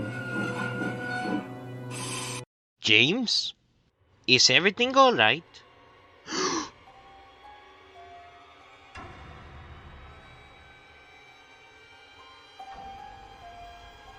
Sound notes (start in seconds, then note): 6.3 Mr. Boonchuy gasp